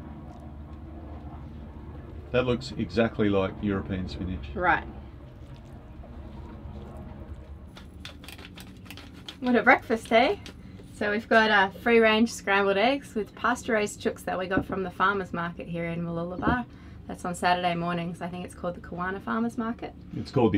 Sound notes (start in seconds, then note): 7.4 peppercorn grating